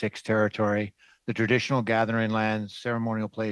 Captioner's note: speaking French